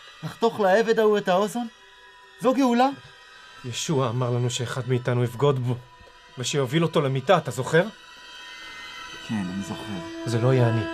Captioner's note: speaking in foreign language